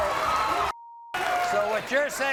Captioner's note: beep